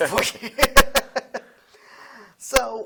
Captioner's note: laughing